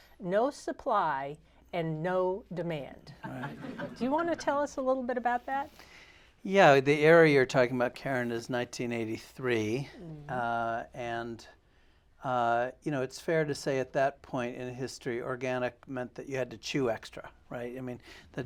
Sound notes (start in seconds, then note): 3.2 laughter